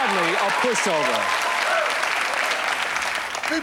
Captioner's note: applause and cheering